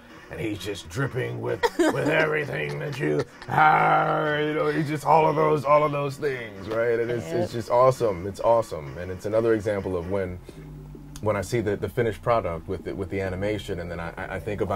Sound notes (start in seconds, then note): 3.1 growls